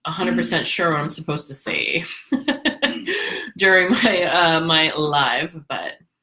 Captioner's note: laughs